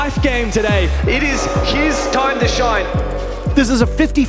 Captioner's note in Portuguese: torcida vaiando